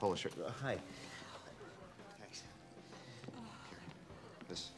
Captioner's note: exhales